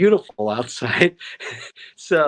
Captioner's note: laughter